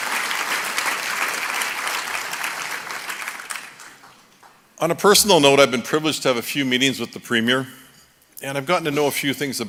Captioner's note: applause